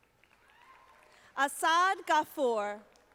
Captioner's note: audience applauding